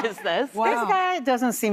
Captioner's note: laughing